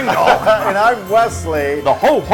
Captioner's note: laugh